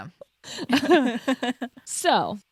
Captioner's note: laughs